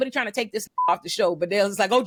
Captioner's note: beep